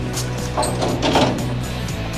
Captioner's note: cabinet door opening